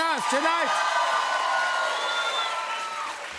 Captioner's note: cheers and applause